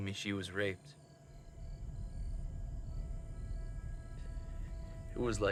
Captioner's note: crickets chirping; tense music